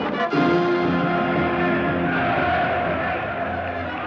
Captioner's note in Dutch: menigte schreeuwt in het Duits